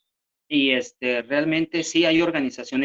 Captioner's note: speaking spanish